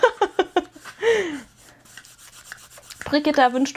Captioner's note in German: gelächter